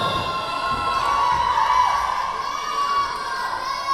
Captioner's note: yelling